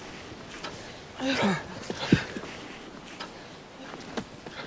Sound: grunting

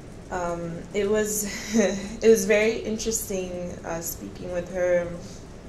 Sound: chuckles

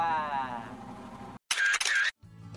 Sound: camera shutter sounds

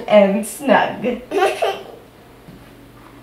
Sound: laughs

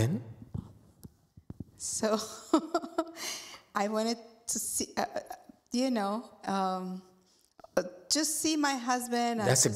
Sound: laughs

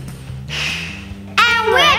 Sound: grunts

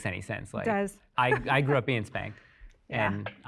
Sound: laughs

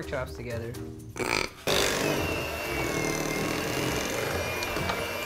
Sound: mixer whirring

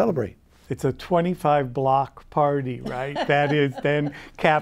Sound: laughs

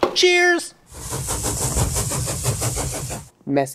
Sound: train noise

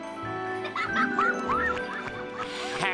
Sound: giggling

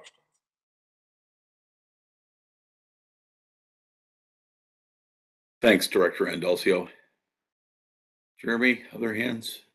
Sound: A pause

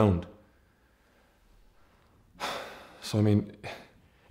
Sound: sighs

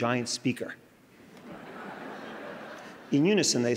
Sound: crowd laughing

